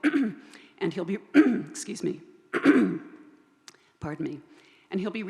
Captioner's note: coughs